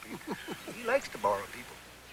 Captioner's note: chuckling